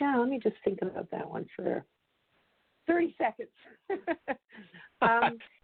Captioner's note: laughs